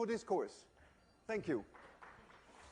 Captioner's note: applause